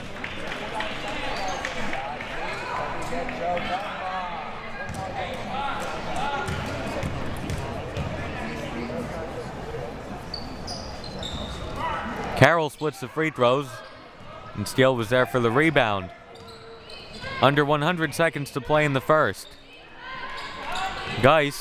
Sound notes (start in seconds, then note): 0.0 audience applauding and chattering; 6.6 ball thudding